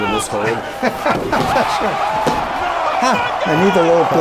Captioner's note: crowd cheering; laughing